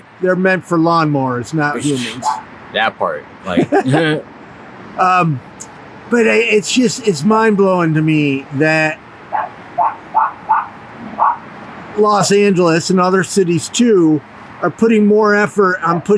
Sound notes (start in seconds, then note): 3.4 chuckles; 3.4 interviewer laughs; 9.5 dog barks